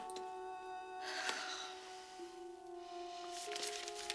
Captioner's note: sighs